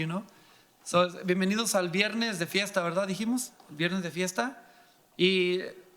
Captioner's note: speaking in foreign language